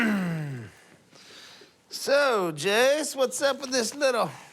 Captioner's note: clears throat